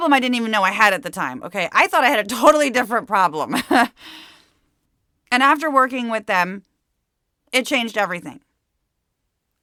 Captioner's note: laughs